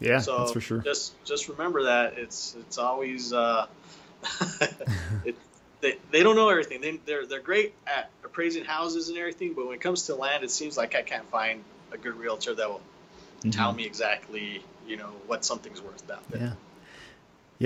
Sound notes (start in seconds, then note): 4.2 chuckling